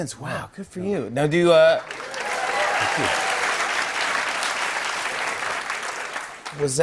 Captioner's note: cheers and applause